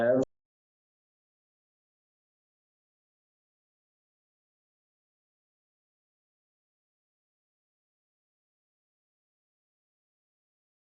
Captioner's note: silence